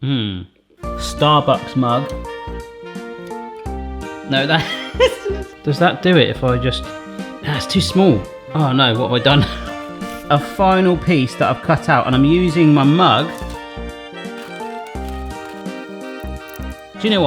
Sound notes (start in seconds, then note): 4.5 laughs; 14.1 bright music